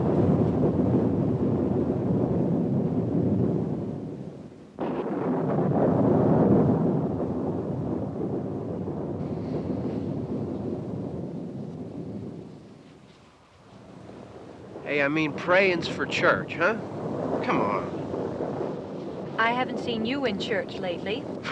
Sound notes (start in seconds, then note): 5.2 thunder continues rumbling